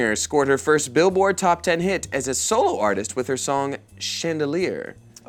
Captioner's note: none